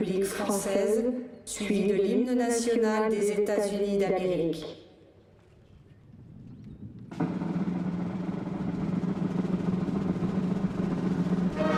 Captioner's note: speaking french